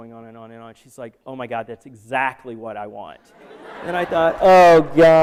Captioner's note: laughter